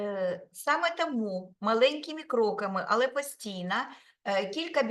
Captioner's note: speaking Ukrainian